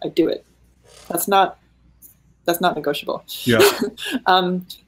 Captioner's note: laughing